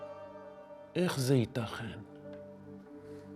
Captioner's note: speaking in Hebrew